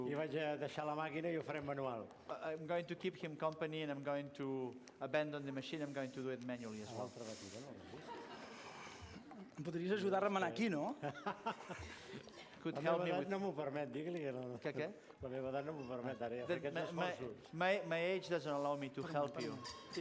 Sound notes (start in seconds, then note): 0.8 non-english speech; 8.2 non-english speech; 11.0 laughs; 14.4 non-english speech